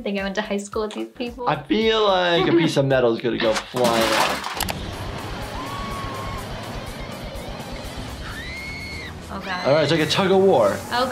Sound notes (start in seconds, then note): 3.4 metal clanging; 9.2 woman screaming